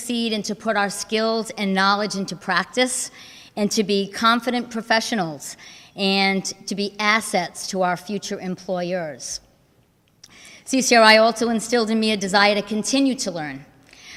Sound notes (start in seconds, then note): none